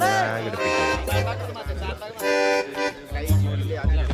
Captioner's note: indistinct chatter